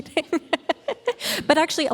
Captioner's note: laughing